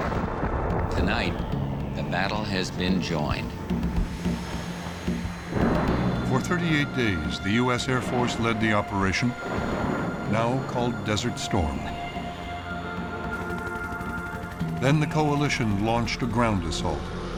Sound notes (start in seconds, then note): 3.9 explosion; 13.1 helicopter whirring